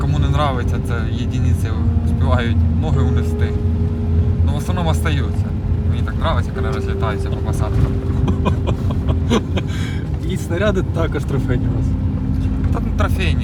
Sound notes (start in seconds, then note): 8.1 laughter